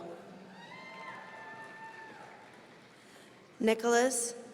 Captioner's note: audience cheering